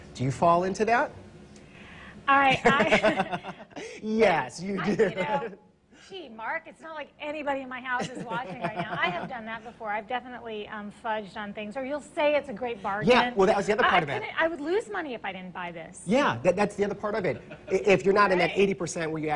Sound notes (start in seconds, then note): 8.0 laughing